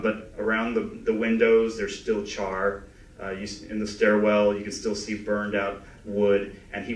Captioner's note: none